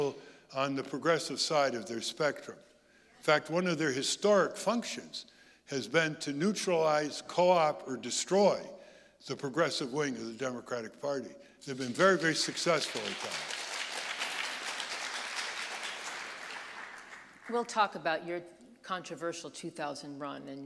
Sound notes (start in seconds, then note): 14.5 audience applauding